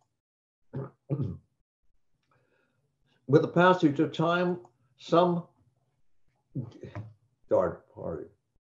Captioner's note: clears throat